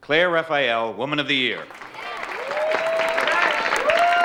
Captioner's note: audience cheering and applauding